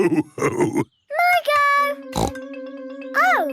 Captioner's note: snorts